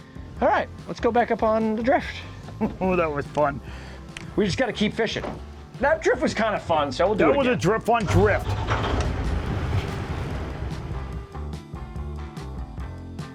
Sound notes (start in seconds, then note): 7.8 engine revving; 9.6 upbeat music continues